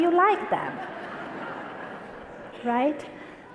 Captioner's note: audience laughter